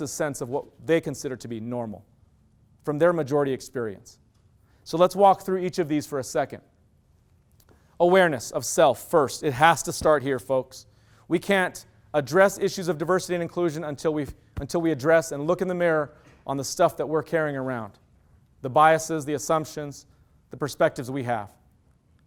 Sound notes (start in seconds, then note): none